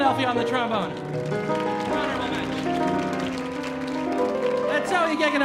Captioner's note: audience applauding